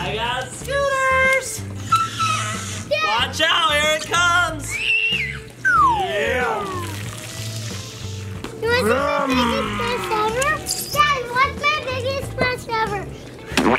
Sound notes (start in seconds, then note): 4.6 squeals; 4.7 slide whistle; 13.5 splash